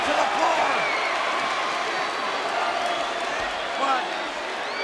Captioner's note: applause